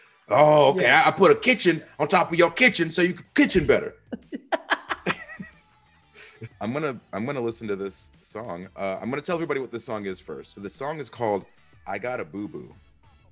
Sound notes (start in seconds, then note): 3.4 laugh